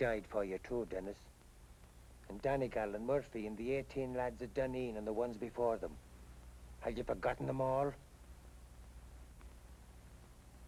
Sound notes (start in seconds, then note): none